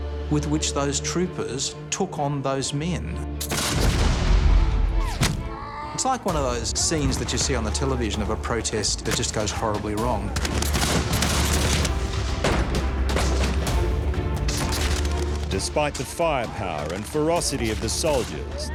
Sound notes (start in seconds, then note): 3.4 rifles firing; 4.9 man screams; 10.2 rifles firing; 12.3 gunshots firing